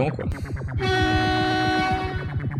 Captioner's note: honk sound once again